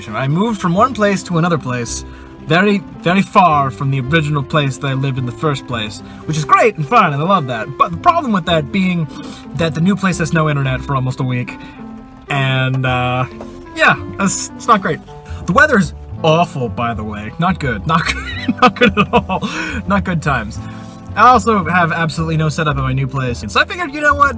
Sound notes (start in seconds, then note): 18.0 laughs